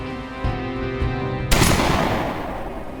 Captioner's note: gunshot